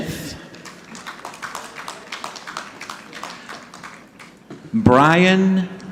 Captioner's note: audience clapping